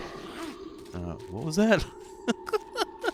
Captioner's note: laughs